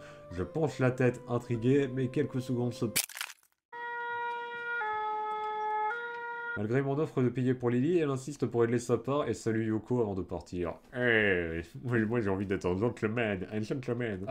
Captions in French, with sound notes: « Je penche la tête, intrigué, mais quelques secondes se... » [Craquement de tête] [Sirènes de pompier] Ehh ! Mais moi j'ai envie d'être un gentleman, un gentleman !